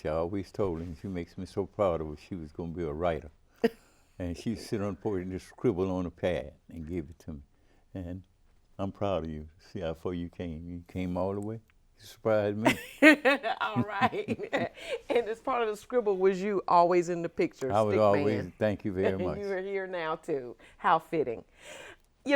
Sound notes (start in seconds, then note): 12.6 chuckling